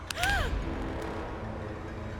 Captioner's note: unsettling music; Linda gasping